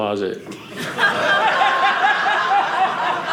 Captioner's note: audience laughing